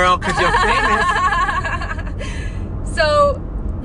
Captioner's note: laughs